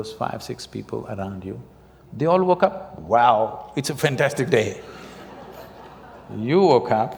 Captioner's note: laughter